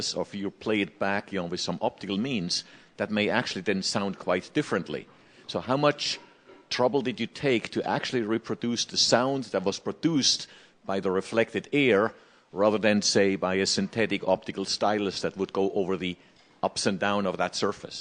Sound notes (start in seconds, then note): none